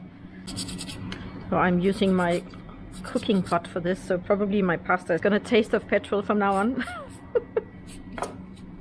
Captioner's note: laughing